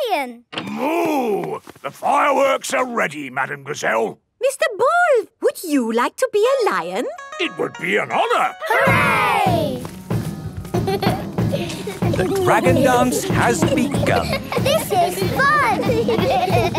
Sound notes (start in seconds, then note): 8.6 drumming; 8.6 laughter; 15.6 laughter